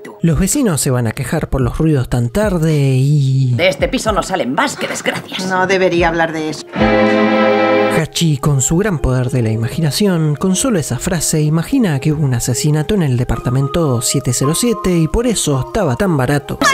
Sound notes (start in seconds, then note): 6.8 terror sound